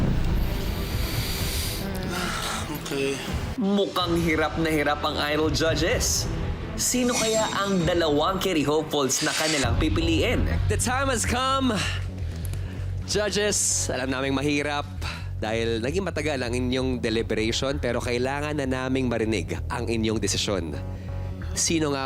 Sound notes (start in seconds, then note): 0.0 suspenseful sting; 1.3 sighs